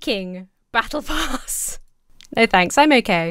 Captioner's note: laughs